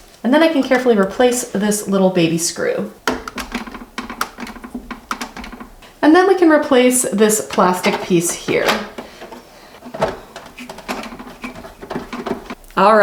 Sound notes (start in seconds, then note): 3.0 screws clatters inside printer; 9.7 screws screw into printer